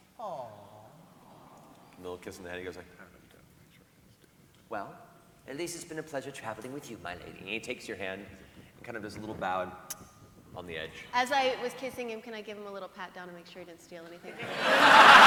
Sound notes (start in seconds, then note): 10.1 kiss